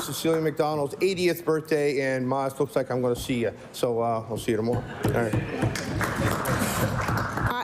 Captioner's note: applause